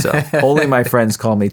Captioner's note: laughing